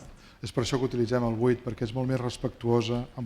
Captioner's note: speaking spanish